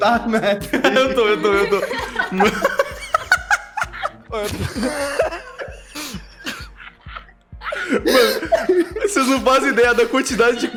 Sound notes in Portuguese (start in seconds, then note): 2.0 Risadas